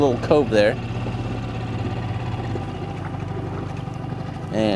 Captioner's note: motor burbling